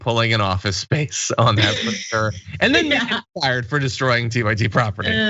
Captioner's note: laugh